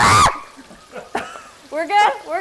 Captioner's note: screams